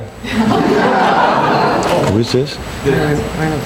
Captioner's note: people laughing